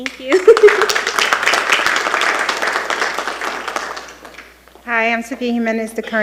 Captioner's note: giggles; attendees applauding